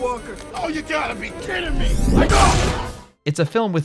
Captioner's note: laser blast